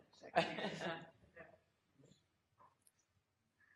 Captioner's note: laughs